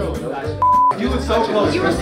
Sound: beep

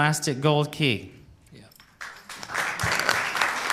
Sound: applause

